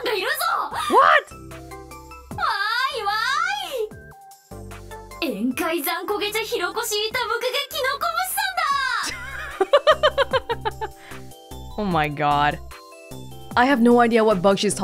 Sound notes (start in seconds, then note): 9.1 chuckles